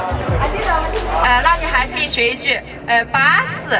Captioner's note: chongqing accent